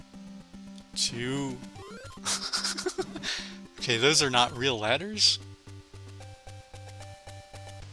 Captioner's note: laughs